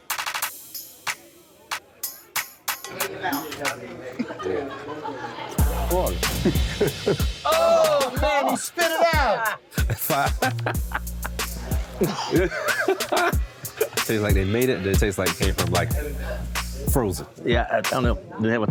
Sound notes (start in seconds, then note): 9.4 gags; 10.6 laughs